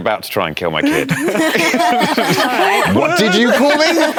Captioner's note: laughter